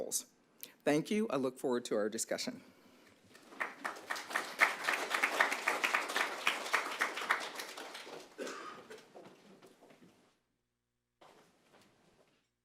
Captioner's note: applause